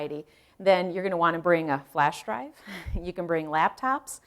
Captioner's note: chuckle